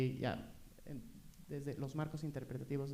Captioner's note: speaking spanish